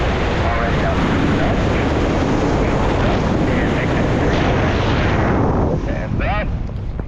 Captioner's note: roaring wind drowns out the radio